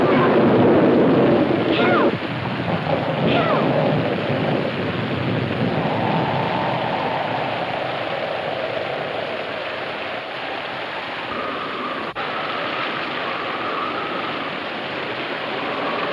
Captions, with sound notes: - Deborah, help. Help. (wind howling)